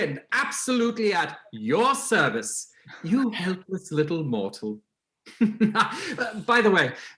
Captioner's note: laughing